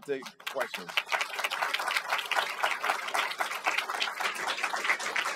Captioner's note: applause